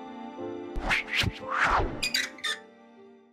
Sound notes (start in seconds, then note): 0.7 whooshing and creaking